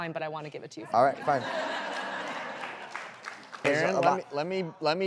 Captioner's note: audience laughing